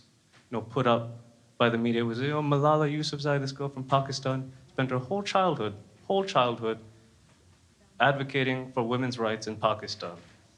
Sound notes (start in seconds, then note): none